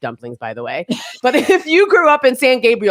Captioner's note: chuckles